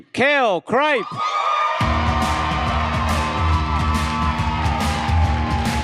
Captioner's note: audience cheers and applauds